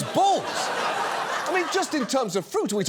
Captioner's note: audience laughs